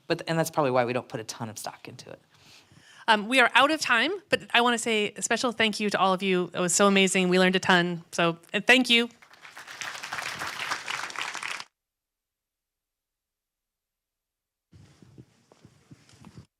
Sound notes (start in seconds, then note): 9.1 audience applauds